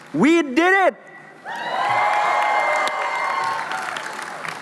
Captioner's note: cheering